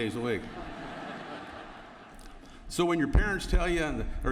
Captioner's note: laughter